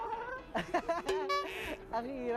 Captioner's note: laughs